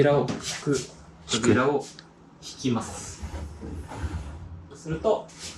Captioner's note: sliding door